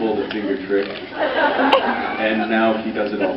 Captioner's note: laughs